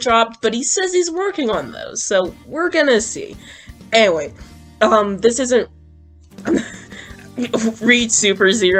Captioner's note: laughs